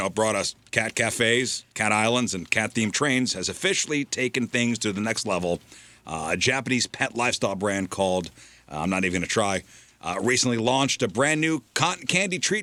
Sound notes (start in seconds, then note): none